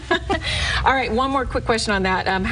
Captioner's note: laughs loudly